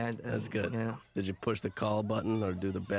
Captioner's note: chuckling